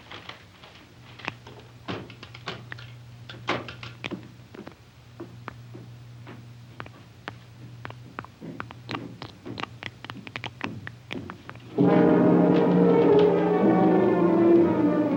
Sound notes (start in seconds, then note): 9.7 blood dripping; 11.7 dramatic music